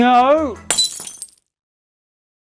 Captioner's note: glass tinkling